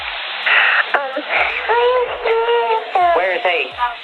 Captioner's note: baby cooing